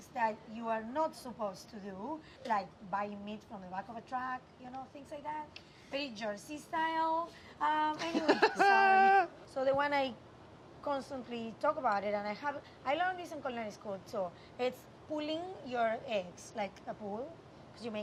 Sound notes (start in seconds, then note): 8.0 laughs